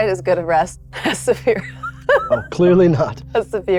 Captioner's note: laughing